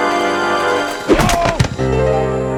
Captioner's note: thud